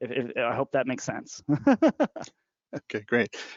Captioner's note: laughing